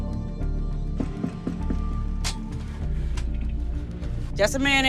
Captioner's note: knock on door